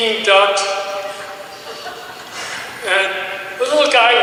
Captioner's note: audience giggles